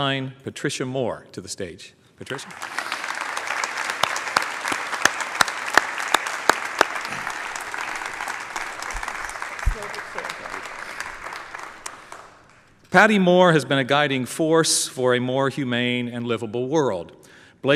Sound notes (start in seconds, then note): 4.2 applause